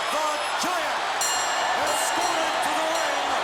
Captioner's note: crowd cheering; bell ringing